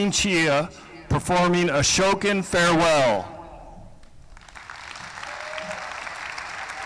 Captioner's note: applause